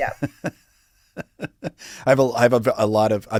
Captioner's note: chuckles